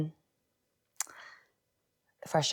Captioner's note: clicks tongue